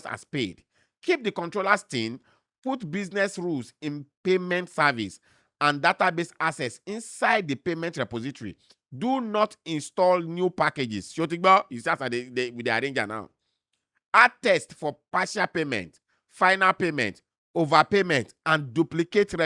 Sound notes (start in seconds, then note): none